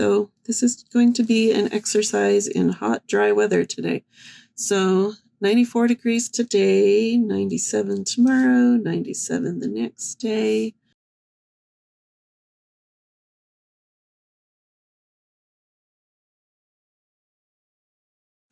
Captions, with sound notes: So, this is going to be an exercise in hot dry weather today. So, 94 degrees today, 97 tomorrow. 97 the next day . . . [No sound]